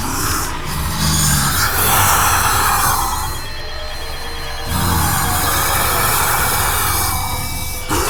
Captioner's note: snarling